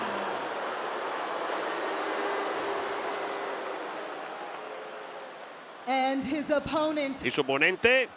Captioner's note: applause